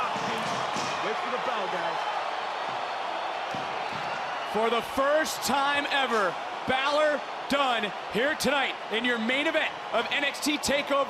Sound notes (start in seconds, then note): 1.9 crowd cheering